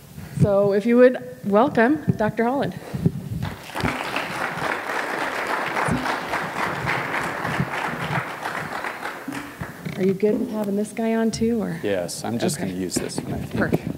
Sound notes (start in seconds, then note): 3.4 applause